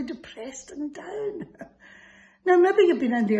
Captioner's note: laughs